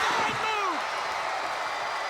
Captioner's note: crowd cheering